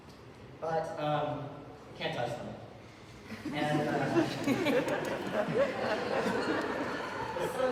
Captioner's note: audience laughter